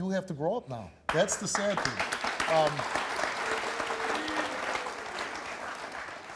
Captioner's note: audience applauds